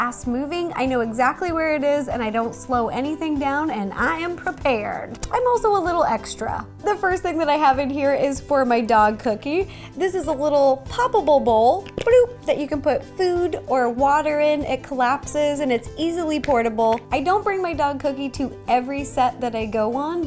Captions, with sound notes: moving, I know exactly where it is, and I don't slow anything down, and I am prepared! I'm also a little extra! The first thing that I have in here is for my dog, Cookie. This is a little popable bowl. *Bloop* That you can put food or water in. It collapses and it's easily portable. I don't bring my dog, Cookie, to every set that I go on,